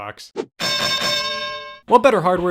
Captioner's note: bell dings